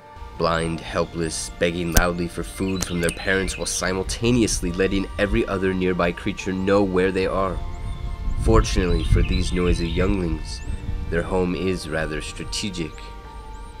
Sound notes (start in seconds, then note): 7.5 birds chirping